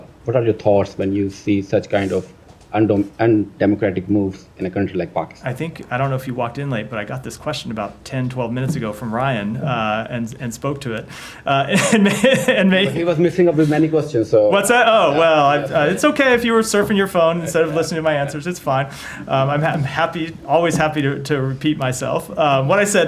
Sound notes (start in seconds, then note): 11.6 laughter